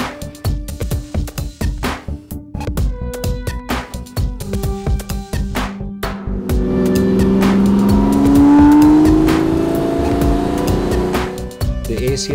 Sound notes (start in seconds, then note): 0.6 upbeat music; 6.3 engines roaring